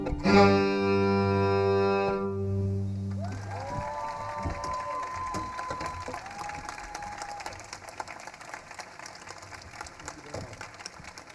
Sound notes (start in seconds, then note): 0.1 suspenseful music fades; 3.0 audience cheering